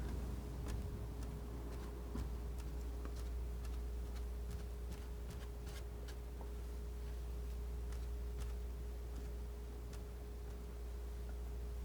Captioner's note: scratching